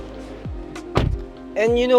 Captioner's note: door thuds